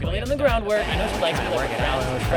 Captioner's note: car revving